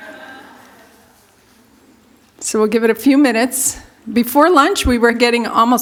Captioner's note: laughter